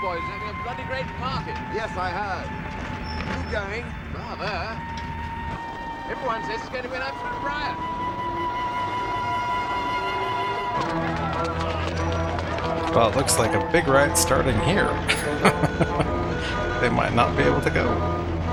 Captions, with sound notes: Well, it looks like a big riot starting here. [Laughing] They might not be able to go.